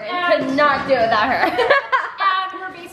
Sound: laughs

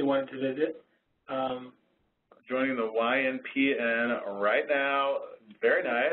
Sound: voiceover

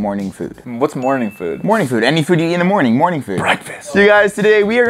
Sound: whispers

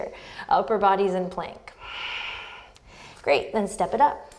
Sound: deep breath

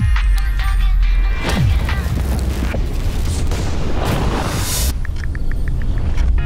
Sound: swooshing

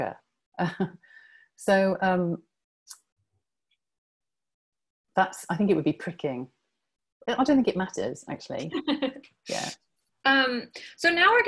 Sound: laughter

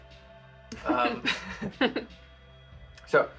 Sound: he chuckles; she giggles

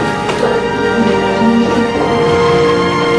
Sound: Celia cooing

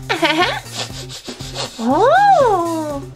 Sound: Jack-Jack giggles; Jack-Jack sniffs

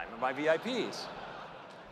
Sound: laughter

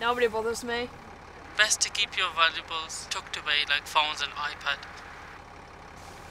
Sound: man speaking on tablet

